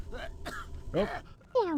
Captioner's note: laughing